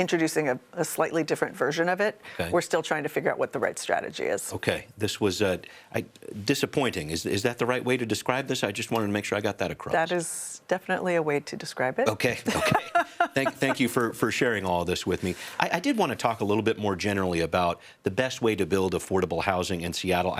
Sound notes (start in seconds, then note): 12.2 laughs